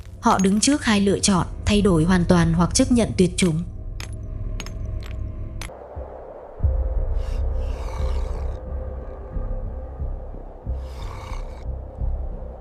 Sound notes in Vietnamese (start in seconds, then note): 7.0 rên rỉ; 8.2 khịt mũi